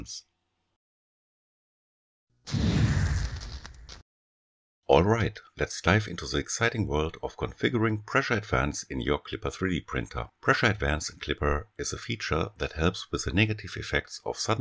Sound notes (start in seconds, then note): 2.5 zoom